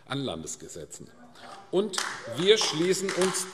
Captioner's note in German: Beifall AfD